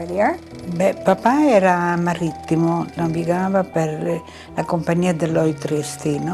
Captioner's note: speaking in foreign language